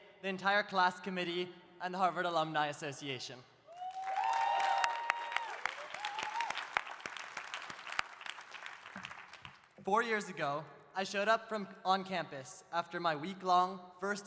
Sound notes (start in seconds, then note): 3.7 audience cheering; 3.8 audience applauding